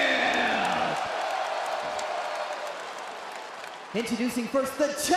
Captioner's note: crowd cheers